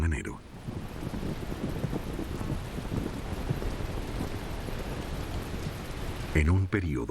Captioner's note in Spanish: lluvia